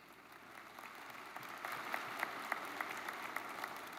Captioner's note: audience applauds